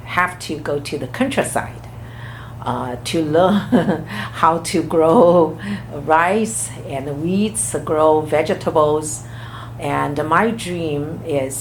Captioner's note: laughs